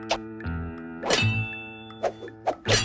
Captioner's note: clanging noises